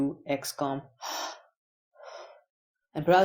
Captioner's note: gasping for breath